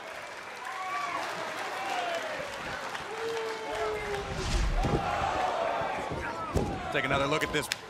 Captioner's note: crowd cheering